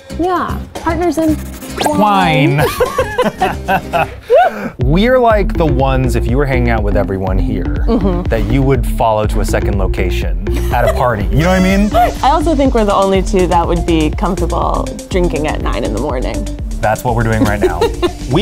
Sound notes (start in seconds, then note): 2.4 laughs